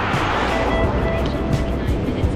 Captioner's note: wind Blowing